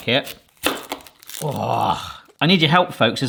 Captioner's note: groans